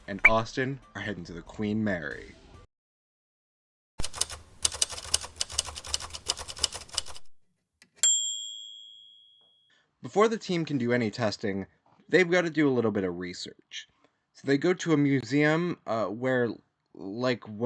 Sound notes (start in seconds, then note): 4.0 typewriter typing sound; 8.0 typewriter carriage return bell